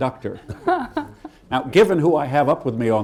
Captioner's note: laughter